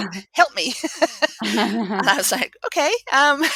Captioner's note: laugh